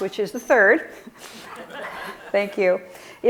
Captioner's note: audience laughing